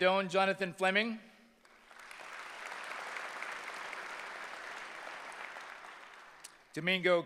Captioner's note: applause